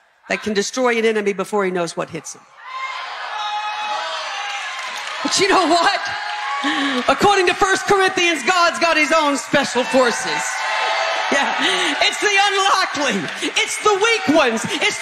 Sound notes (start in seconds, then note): 3.9 congregation chatter; 10.0 congregation cheering